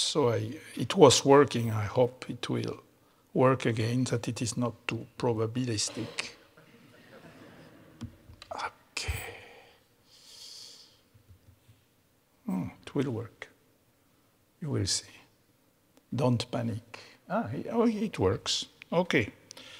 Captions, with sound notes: so it was working, I hope it will work again, that it is not too probabilistic. (audience laughing) Okay. Hmm, it will work. You will see, don't panic. Ah, oh it works, okay.